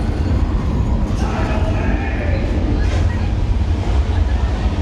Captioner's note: person shouting